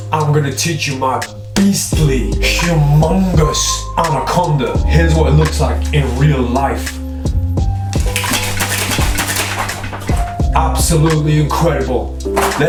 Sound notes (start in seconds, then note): 7.9 cards shuffling loudly